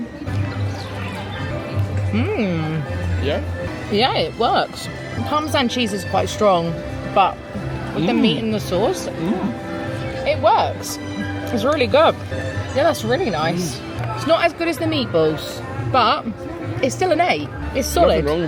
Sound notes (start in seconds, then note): 0.1 bright music; 9.1 grunting